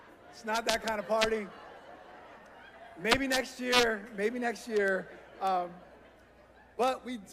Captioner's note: laughter